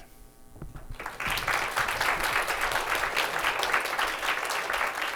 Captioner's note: applause